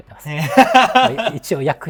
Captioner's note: laughing